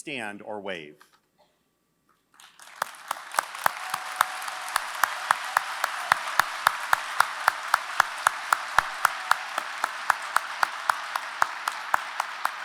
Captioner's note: applause